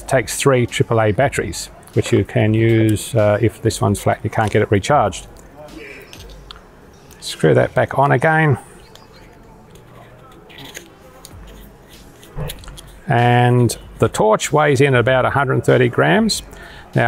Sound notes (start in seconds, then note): 8.7 metal sliding on metal